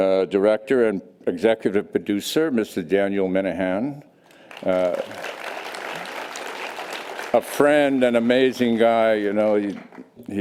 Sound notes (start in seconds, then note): 4.4 audience applause